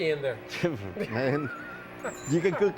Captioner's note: laughs